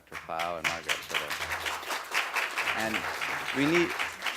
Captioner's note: applause